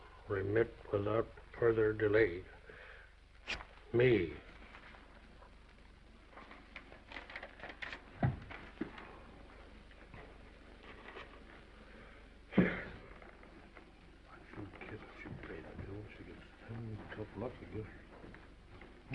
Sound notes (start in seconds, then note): 4.7 paper rustling; 12.5 sighs